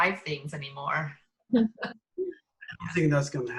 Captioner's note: laugh